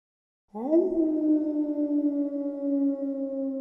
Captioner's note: howling